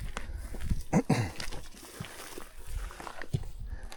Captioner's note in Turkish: boğazını temizler